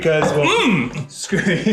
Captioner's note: yells